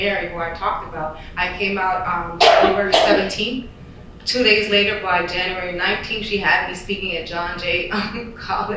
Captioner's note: loud coughing